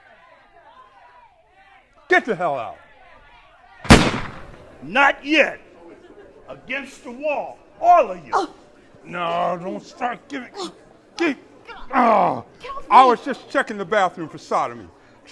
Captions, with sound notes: Get the hell out. (gunshot) - Not yet, against the wall. All of you. - No, don't start. (grunts) - Get off me. - I was just checking the bathroom for sodomy.